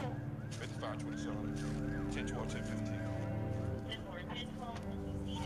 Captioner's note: sirens blaring